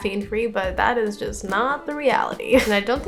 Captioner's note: laughs